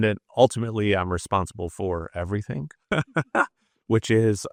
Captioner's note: laughs